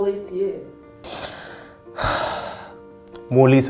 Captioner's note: light music; deep sigh